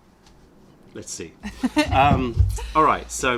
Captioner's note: laughter